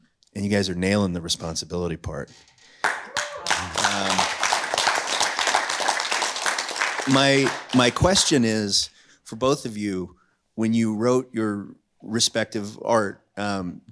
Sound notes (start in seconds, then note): 2.8 cheers and applause